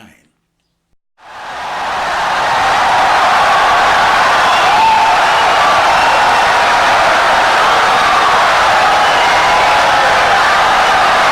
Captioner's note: wild applause and cheering for 17 seconds